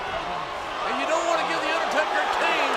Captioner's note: crowd cheering